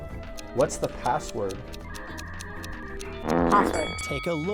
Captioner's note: timer ticking